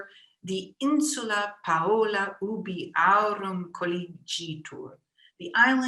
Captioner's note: speaking in foreign language